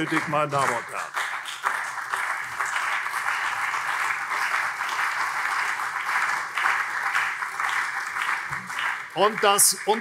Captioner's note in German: Beifall CDU und SPD